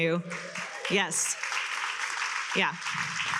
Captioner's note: attendees cheer and applaud